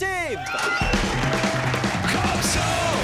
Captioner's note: cheering